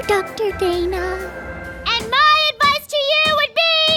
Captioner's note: shouting over hammering